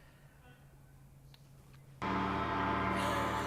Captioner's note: gong; laughter